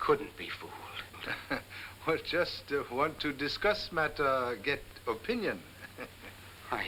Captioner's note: laughs